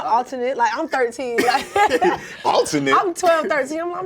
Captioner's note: laughs